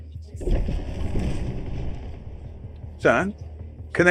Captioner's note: power booming